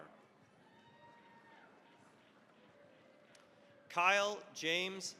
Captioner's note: cheering, applause